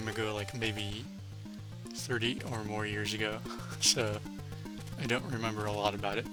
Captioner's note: laughs